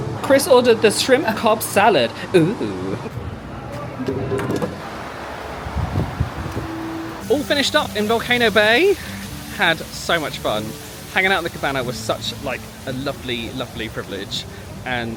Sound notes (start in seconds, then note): 4.0 TapuTapu clatters; 6.1 wind blowing